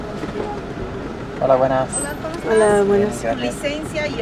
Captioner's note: in Spanish